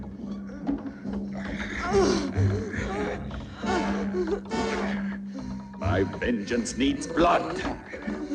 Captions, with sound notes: (ominous music) (groaning) My vengeance needs blood.